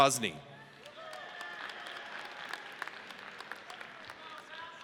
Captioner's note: audience cheers